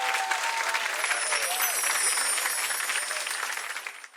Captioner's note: twinkling